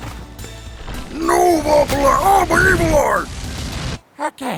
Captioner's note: running noises, rock throwing noises